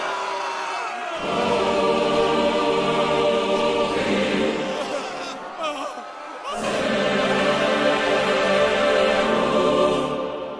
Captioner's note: screams in the background intensify